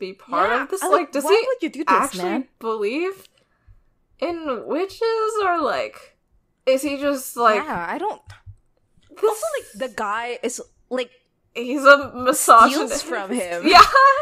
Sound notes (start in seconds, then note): 13.1 laughs